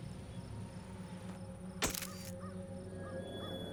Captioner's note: click